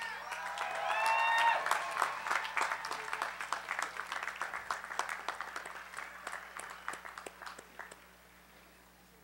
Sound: applause

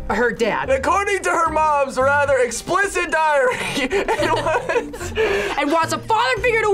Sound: laughs

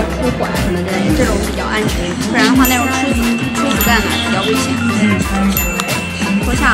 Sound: speaking Chinese

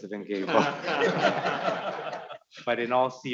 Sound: audience laughing

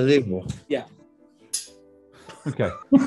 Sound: dull clink; laughing

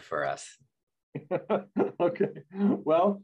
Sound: laughing

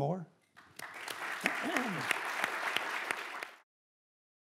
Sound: applause

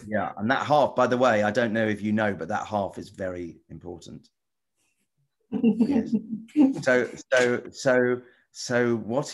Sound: giggles

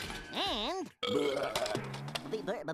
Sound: belching

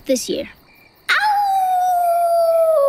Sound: howling

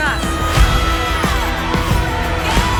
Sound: all cheering

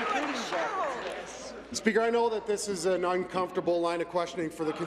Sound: applause

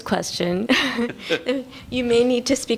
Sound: laughter

